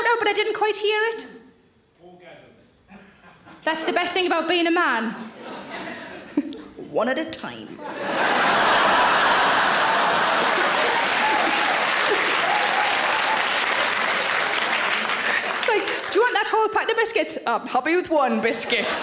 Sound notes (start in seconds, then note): 6.2 Sarah chuckles; 8.8 audience laughs; 10.6 audience claps